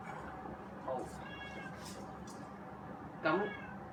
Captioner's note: meow ~ ~ ~ ~